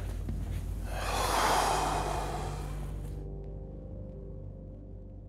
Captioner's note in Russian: громко выдыхает